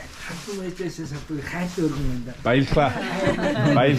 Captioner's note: local speaks in foreign language; speaks in foreign language